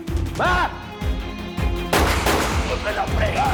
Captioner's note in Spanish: Disparos